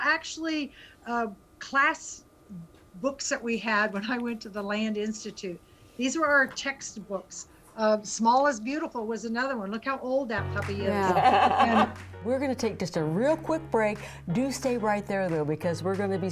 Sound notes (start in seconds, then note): 10.4 upbeat music; 10.9 laughs